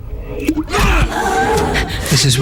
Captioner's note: man yelling, girl gasping